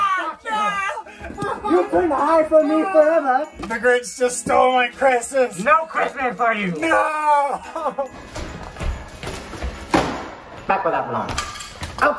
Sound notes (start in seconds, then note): 2.1 laughs